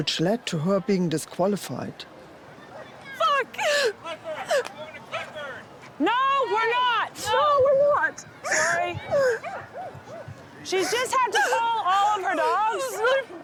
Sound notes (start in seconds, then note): 3.2 cries; 4.5 man Yelling